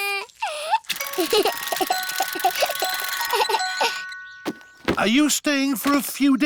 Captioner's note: alexander giggles